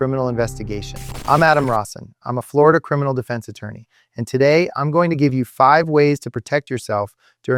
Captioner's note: sarcastic